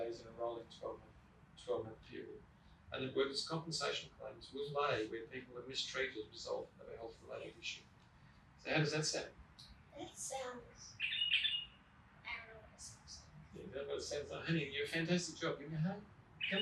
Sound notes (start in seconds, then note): 0.0 bird chirping; 10.7 bird chirping